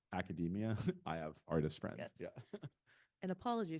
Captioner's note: chuckling